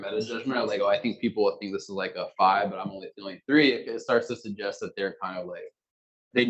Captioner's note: male Voice